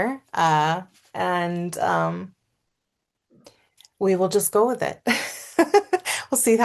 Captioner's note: laughs